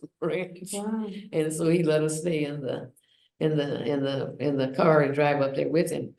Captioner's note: laughs